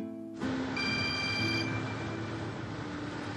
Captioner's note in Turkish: Telefon çalıyor